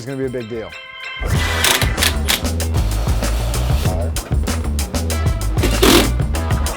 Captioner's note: jazzy music; saw buzzing